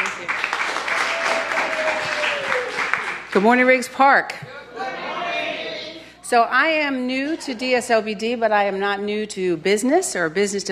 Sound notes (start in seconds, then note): 0.0 cheers and applause